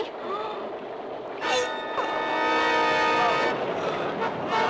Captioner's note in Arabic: غاري يتأوه